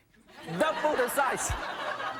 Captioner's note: audience laughing